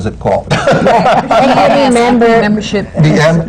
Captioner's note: laughter